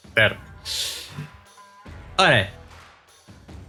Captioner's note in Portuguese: risos